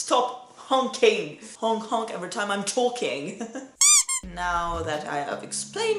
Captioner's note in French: bip biiiip